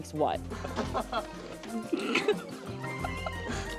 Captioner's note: light laughter